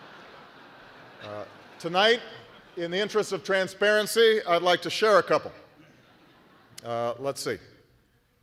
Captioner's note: laughter